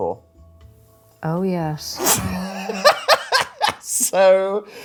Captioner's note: laughing